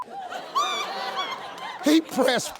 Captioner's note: audience laughs